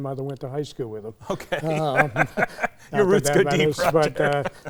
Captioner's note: laughs